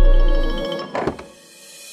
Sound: door opening

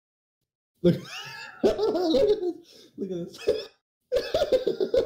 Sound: wheeze

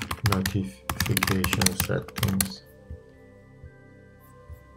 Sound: keyboard clicking

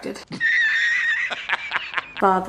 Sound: man laughs

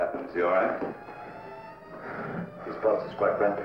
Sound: heavy breathing

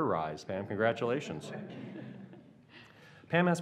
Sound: laughs

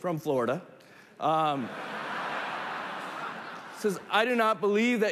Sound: laughter

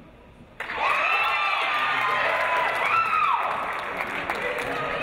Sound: audience cheering

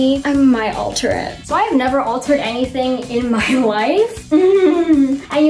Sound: chuckles

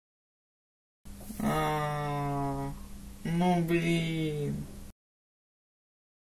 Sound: lowering the voice tone

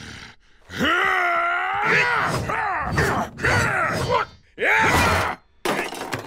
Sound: grunting

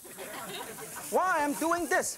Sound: audience laughing

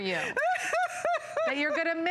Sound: laughter

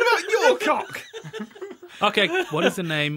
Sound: laughter

